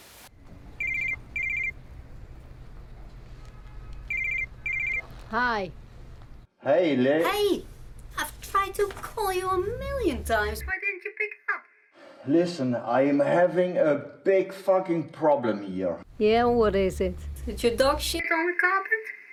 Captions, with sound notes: [Phone is ringing] Hi! Hey lis... Hey, I've tried to call you a million times. Why didn't you pick up? Listen, I'm having a big fucking problem here. Yeah, what is it? Did your dog shit on the carpet?